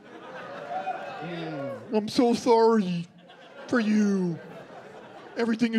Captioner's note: dopey voice